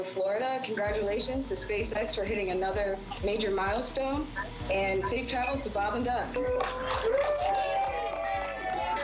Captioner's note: cheering